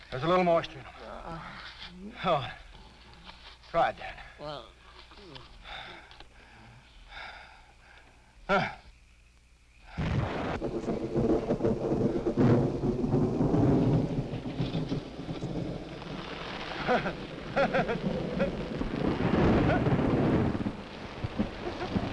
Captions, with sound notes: There's a little moisture in 'em. (Dan groaning) Go on, try it, Dan. (Dan groaning) (Quent gasping) (thunder rumbling) (Quent chuckling) (rain pattering)